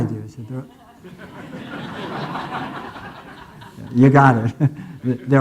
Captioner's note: audience laughing